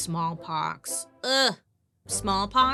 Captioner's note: groaning